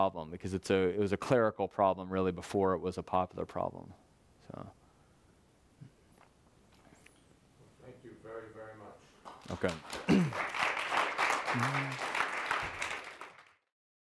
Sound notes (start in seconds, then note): 9.3 audience applause